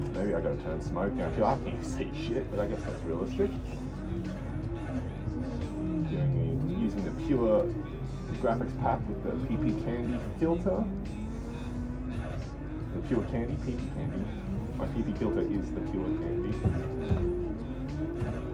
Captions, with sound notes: maybe i gotta turn smoke down, Dude i can't see sheet, but i guess that realistic Using the Pure Graphics packs with the PEEPEE candy filter *inhales* Purecandy? Oh PPcandy no.. my PP filter is the Pure candy